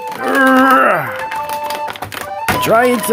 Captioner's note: grunts